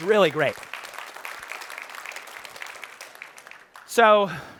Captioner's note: applause